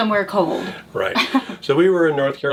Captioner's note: chuckles